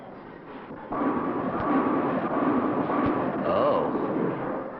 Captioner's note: bowling pins clatter